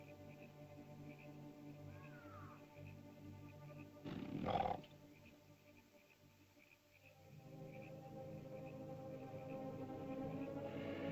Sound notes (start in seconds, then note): 0.2 bird caws; 0.2 ominous music; 4.0 animal growls; 7.2 ominous music